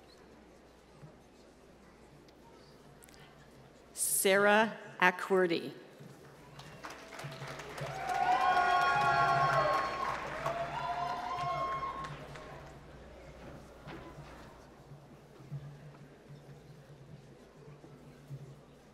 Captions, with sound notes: Sarah Acqwerty. (applause)